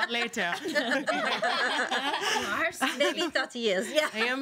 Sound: girls laughing

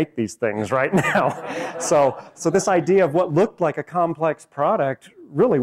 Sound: laughs

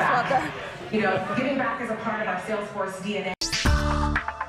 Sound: announcements in background; upbeat music

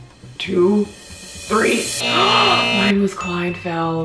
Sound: buzzer Sound

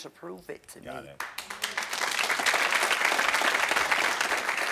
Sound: audience applauds

